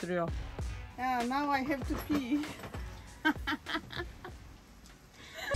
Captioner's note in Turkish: Gülüşmeler